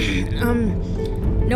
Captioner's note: clears throat